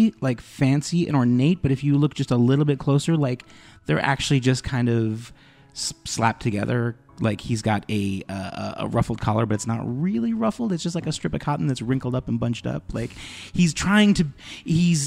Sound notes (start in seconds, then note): none